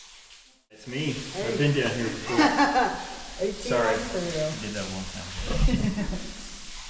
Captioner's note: guide laughs